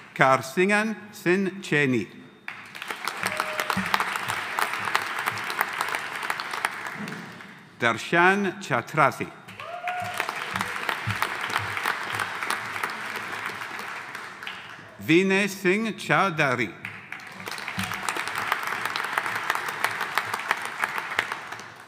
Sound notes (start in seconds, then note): 2.4 audience applauding; 2.8 audience cheering; 9.5 audience applauding; 9.5 audience cheering; 16.8 audience applauding